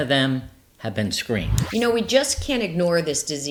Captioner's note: graphic whooshing